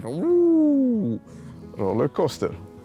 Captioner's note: exclaiming